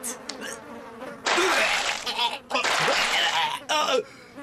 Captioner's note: vomiting, coughing